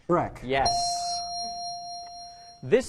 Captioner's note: ding